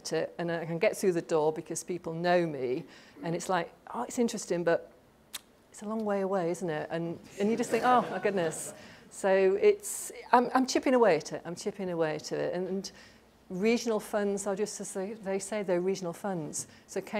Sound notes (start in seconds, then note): 7.6 laughter